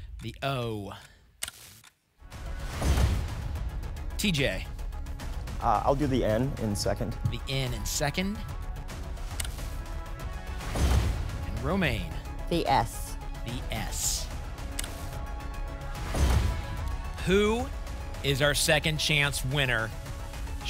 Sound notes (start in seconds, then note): 2.4 whoosh; 2.8 thump; 10.6 whoosh; 10.8 thump; 16.0 thump; 16.0 whoosh